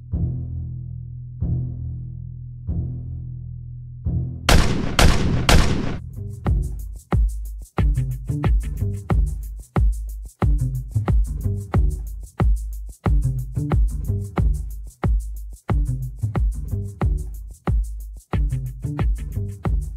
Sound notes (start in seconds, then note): 4.5 gun bangs; 6.8 rhythmic music